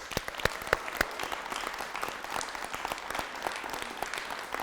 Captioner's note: people clapping